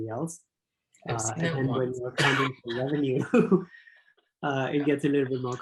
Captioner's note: laughs